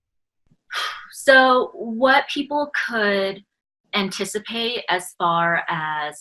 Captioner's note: exhales